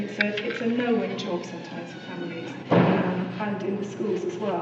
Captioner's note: hum drowns out speaker